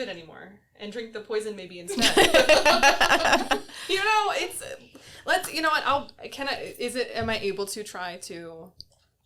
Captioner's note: everyone laughs